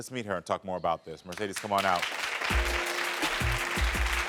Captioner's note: audience applauds; soft music